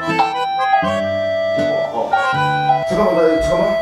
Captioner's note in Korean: 초인종 소리